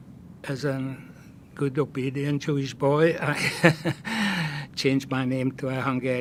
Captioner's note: laughing